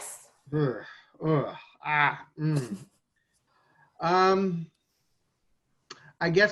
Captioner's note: groans